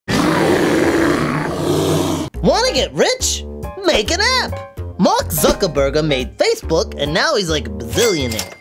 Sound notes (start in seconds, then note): 0.0 gorilla roars